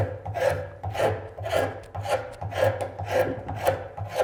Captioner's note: knife cutting